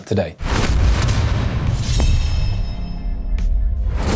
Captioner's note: crashing sound